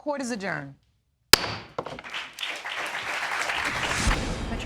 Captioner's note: all clapping